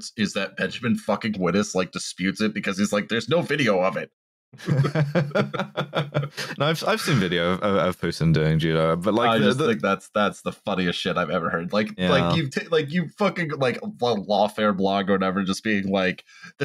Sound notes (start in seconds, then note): 4.6 laughter